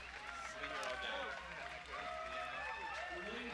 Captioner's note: applause